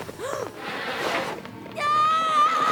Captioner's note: gasps